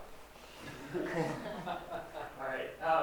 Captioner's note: laughter